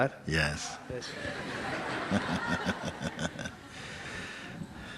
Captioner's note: laughter